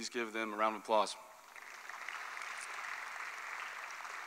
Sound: applause

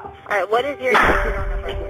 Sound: bang

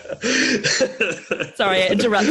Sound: laughs operatically

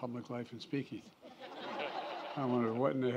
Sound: laughter

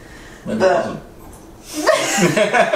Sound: laughing

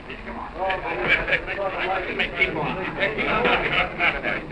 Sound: background conversations

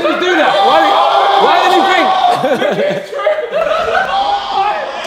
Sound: group laughs; JJ screams; Ethan laughs

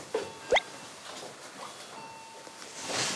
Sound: rings

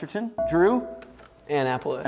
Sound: buzzer beeps

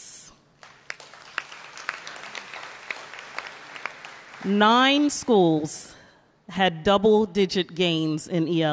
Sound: applause

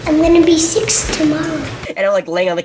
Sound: none

